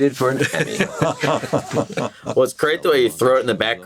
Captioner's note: Begley Jr. laughs